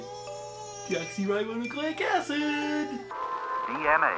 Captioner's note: sing-song voice